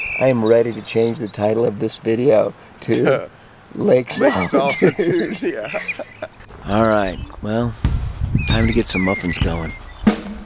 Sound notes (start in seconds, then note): 4.1 laughter